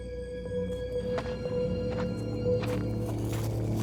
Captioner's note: none